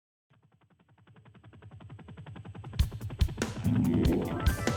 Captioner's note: helicopter; upbeat music